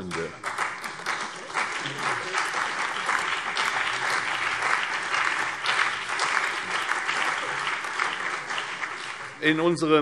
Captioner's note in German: Allgemeiner Beifall